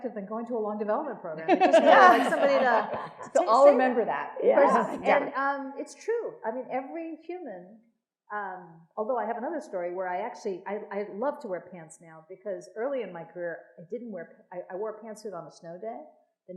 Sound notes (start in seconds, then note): 1.4 attendees laughing